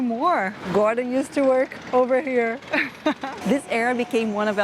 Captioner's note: laughs